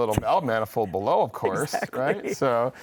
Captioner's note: laughs